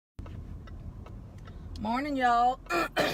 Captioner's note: turn signal clicking